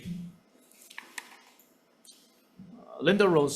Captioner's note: paper rustling